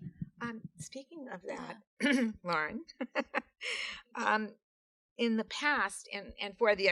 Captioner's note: laughs